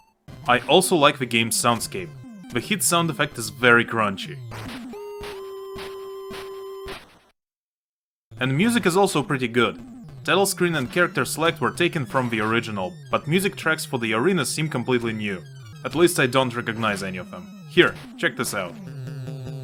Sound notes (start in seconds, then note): 4.4 A really crunchy sound effect